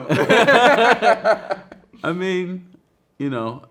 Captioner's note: both laughing